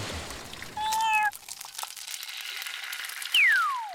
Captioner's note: meowing